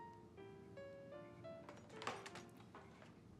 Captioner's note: clattering